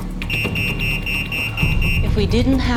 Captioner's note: alarm goes off